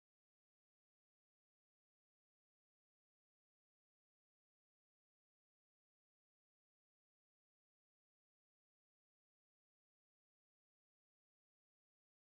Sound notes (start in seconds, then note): none